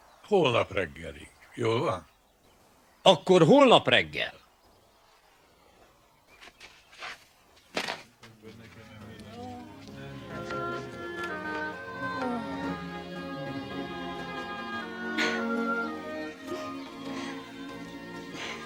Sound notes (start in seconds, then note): 9.2 grumbling; 14.0 sobbing